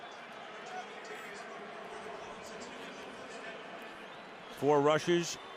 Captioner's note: pa announcement